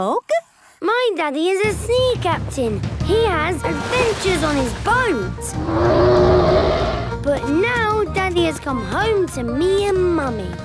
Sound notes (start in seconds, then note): 5.5 loud roar